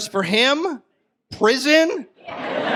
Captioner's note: audience laughs